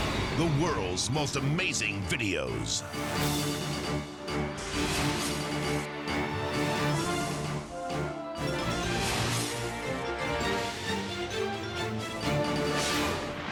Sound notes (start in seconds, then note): 0.0 dramatic air whoosh; 2.6 dramatic music; 4.7 dramatic air whoosh; 5.8 dramatic music; 8.7 dramatic air whoosh; 10.4 dramatic music